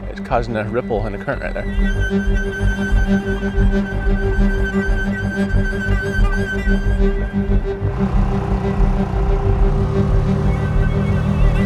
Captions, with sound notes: It's causing a ripple and a current right there. (harrowing music) (boat revving)